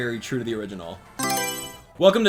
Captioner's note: Mario Selection Sound